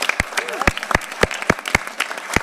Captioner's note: applause